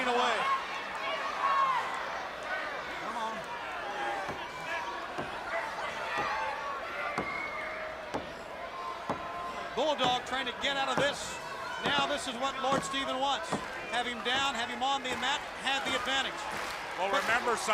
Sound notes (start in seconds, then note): 1.0 crowd chatter